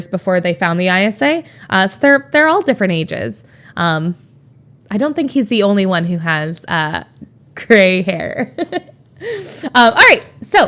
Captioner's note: Emma laughs